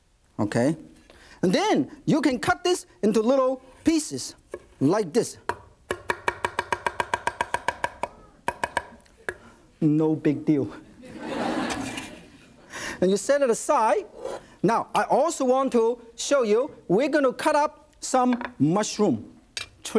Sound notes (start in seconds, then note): 5.8 quick knife taps; 10.9 audience laughs